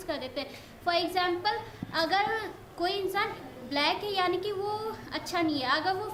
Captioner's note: speaks in foreign language